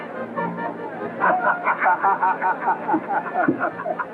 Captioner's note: laughter